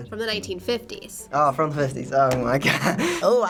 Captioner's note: laughing